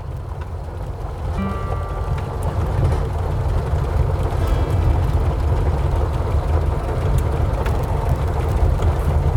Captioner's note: truck rumbling